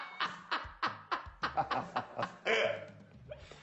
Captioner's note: laughs